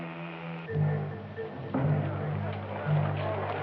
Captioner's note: people chattering